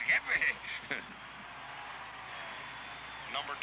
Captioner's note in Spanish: sonido de público en la radio